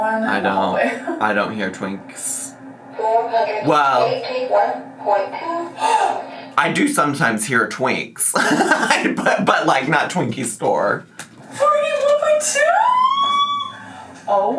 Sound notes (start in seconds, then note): 8.4 laughing